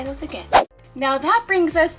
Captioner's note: whoosh